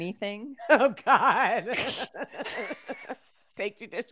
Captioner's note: laughing